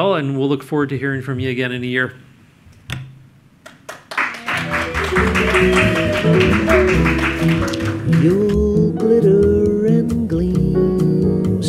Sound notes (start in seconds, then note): 3.7 audience applauds; 4.5 upbeat music